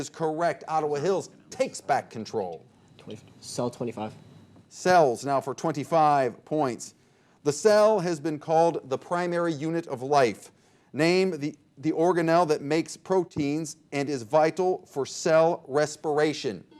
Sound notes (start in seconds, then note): 2.7 players murmuring